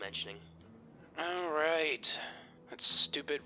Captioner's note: sigh